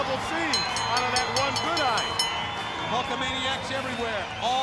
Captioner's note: bell dings